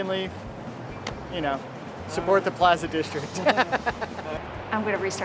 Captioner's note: laughing